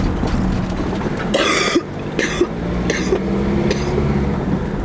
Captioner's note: cough